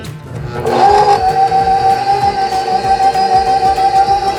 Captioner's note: machine whirring